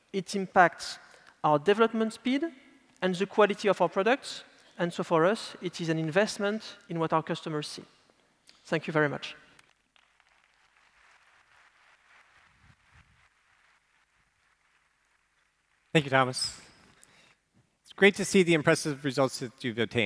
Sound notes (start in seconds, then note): 9.8 applause